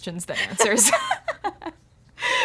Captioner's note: laughter